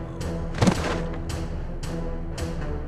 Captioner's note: thump